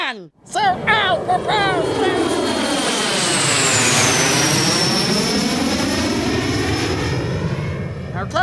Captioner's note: jet engine roar